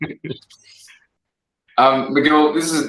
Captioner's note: laughter